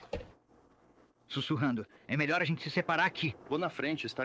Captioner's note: whispering